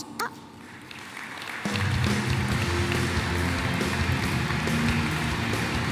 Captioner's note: applause